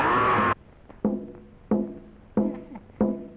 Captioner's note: screaming